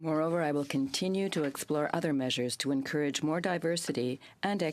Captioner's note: speaking french